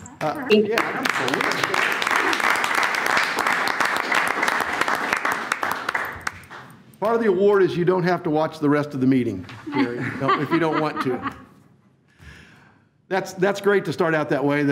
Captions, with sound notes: Yeah absolutely. (all applaud) Part of the award is you don't have to watch the rest of the meeting if you don't want to. (all laugh) That's great to start out that way